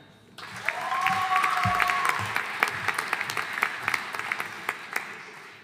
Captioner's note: audience cheering and applauding